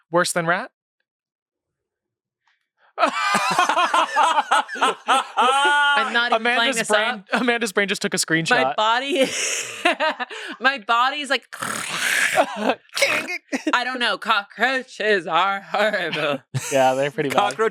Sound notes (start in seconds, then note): 3.0 everyone laughs; 11.5 makes sound effects; 11.7 laughs